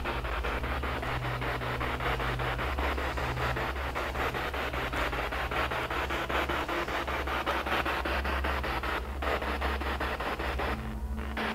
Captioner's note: noise of the spiritbox in the background